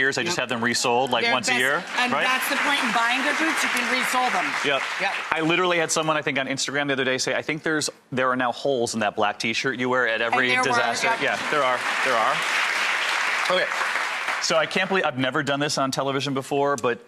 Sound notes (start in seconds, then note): 1.0 audience clapping; 12.5 audience clapping